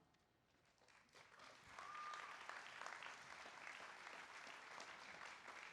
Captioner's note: applause